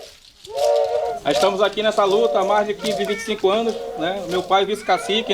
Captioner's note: non-english speech